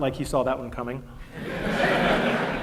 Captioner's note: laughter